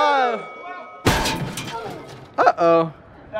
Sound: metal crashing

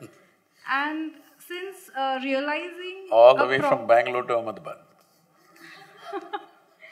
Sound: laughter

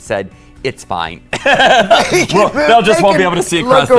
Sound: laughs

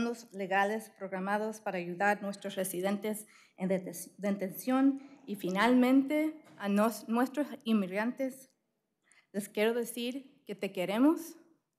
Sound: speaking spanish

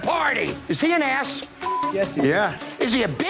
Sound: beep

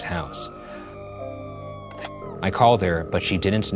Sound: woman screams

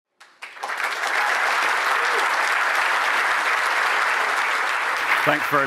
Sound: applause

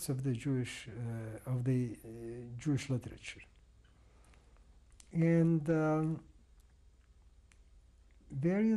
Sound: pauses for 3 seconds

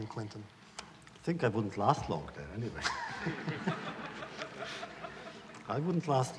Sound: laughter

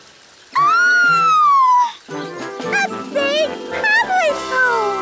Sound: gasps; squeals excitedly

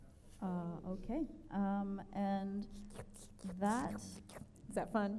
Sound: makes sucker sound

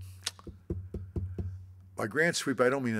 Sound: taps desk

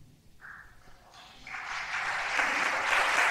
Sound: applause

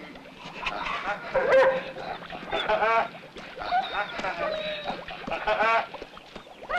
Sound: laughing; dog barking

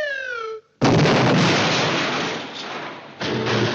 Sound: explosion

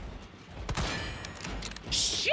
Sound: fires Bullet, Bullet Ricochets

